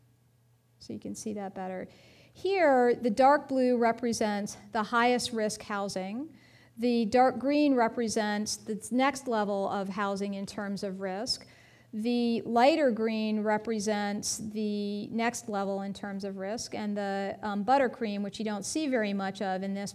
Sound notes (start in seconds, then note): none